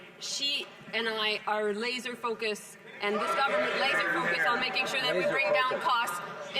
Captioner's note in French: voix de l'interprète